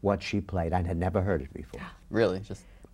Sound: gasps

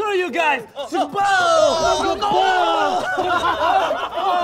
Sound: laughter

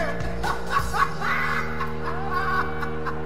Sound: guys Laughing in the Background

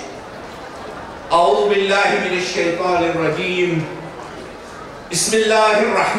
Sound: speaking in foreign language

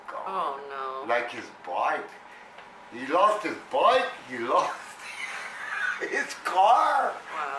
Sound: laughs

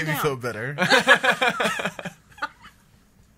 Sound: laughs

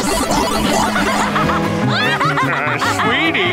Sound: laughing

